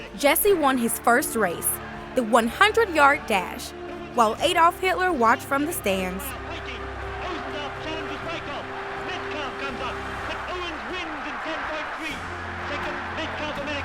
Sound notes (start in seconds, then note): 6.8 speaking in foreign language; 8.5 people cheering